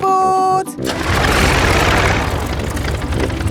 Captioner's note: plane engine starts